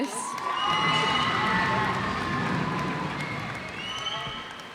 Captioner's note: cheers and applause